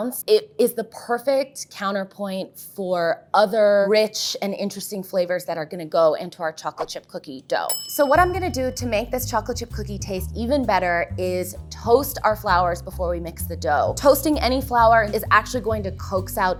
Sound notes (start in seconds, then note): none